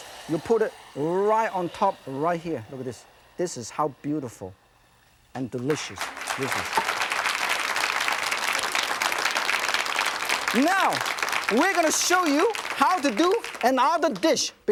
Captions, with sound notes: You put it right on top right here, look at this. This is how beautiful and delicious this is. (audience applauding) Now, we're going to show you how to do another dish,